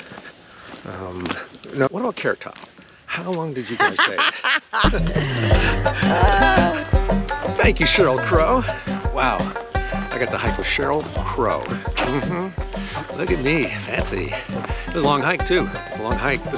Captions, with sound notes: Now, what about Carrot Top? How long did you guys date? (laughing loudly) (easy-going oscillating music returns) Thank you, Sheryl Crow. Wow, I got to hike with Sheryl Crow. Mm-hmm, look at me, fancy. It was long hike too, it's a long hike.